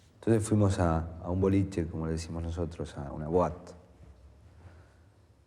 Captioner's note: man speaking in foreign language